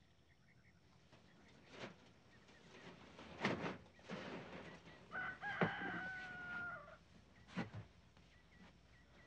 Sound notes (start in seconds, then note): 5.1 rooster crowing